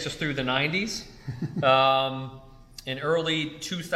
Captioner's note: laughs